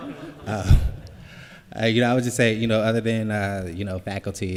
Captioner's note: laughter